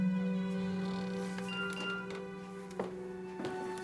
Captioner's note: phone beeps